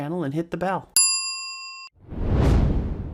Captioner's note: bell dings; air whooshing